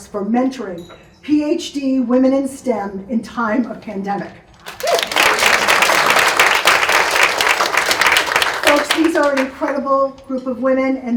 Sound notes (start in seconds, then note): 4.6 audience claps